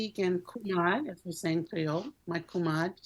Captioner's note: speaks in Creole